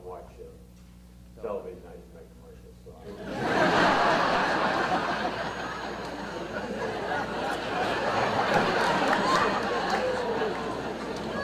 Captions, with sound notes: I don't watch television, I just like commercials so-- (audience laughter)